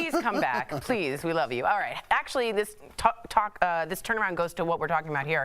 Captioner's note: laughter